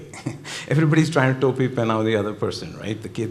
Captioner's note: speaking Hindi